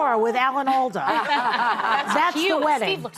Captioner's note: audience laughing